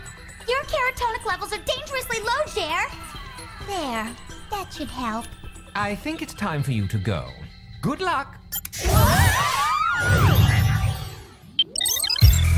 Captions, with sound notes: Your carrotonic levels are dangerously low, Jer. There, that should help. I think it's time for you to go. Good luck. [scream]